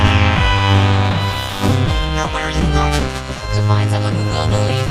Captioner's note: crowd cheering